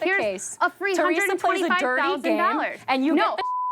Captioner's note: beep